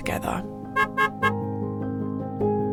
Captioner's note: toot toot toot!